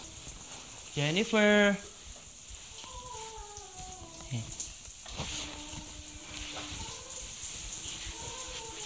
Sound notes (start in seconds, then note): 2.1 water running; 3.0 Jennifer humming